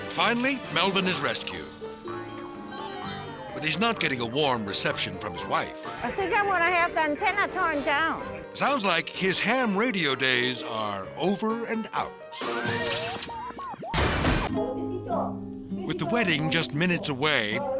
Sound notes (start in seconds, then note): 12.8 radio buzzing; 15.7 people chattering